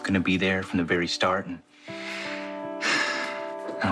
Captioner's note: sighs